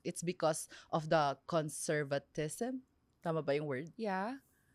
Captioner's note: none